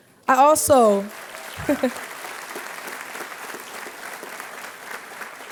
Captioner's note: applause